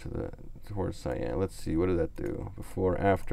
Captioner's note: clicks on mouse